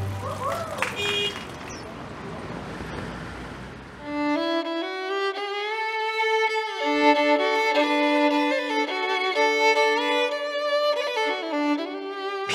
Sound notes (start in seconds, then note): 0.1 cheering; 0.9 horn honks